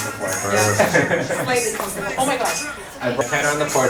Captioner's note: hip hop music; laughs